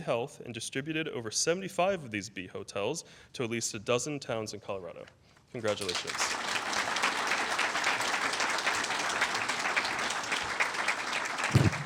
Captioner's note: applause